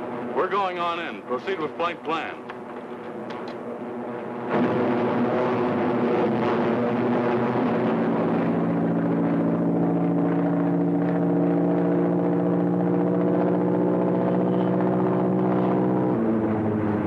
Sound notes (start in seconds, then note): 3.9 plane engines roaring